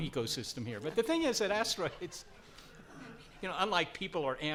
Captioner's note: laughs